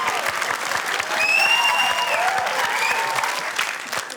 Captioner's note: whistling